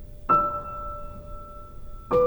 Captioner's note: none